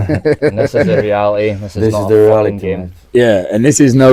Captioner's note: laughing